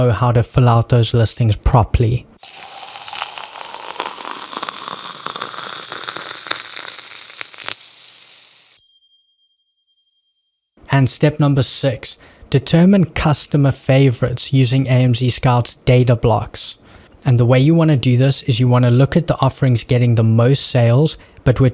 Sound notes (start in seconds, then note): 2.4 cup filling